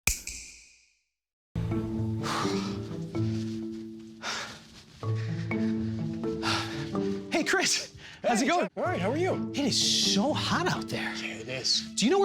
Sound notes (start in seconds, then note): 0.0 snap; 2.0 panting